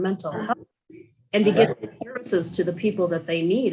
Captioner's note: static drowns out voice